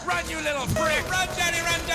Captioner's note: guns firing